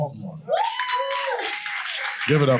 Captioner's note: audience cheering